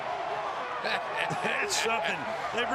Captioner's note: laughs